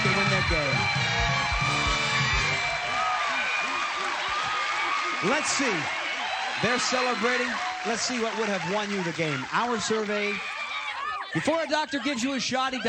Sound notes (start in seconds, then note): 1.1 applause, cheering